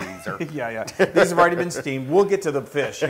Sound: laugh

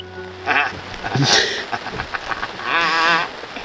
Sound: laughing

